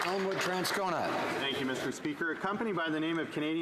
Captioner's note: some Applause